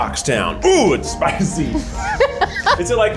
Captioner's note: laughs